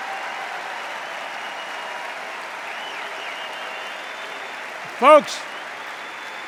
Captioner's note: applause